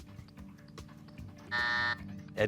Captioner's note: buzzer